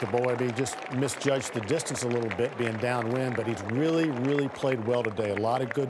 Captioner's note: applause